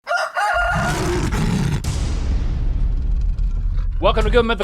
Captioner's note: rooster Crows; creature growls